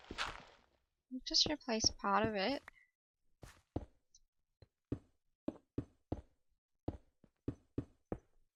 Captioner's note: thunk thunk thunk thunk